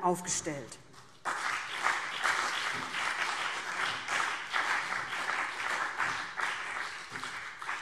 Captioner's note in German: Beifall BÜNDNIS 90/DIE GRÜNEN und vereinzelt CDU